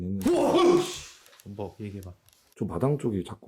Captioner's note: ㅋㅋㅋㅋㅋㅋㅋㅋㅋㅋ